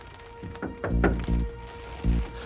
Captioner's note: knocking